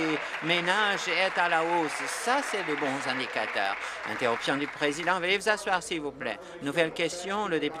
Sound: applause

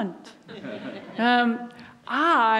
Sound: audience laughs

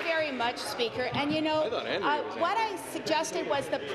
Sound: some Applause

